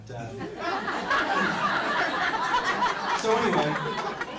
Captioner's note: crowd laughs